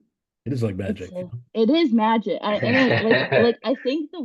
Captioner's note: laughs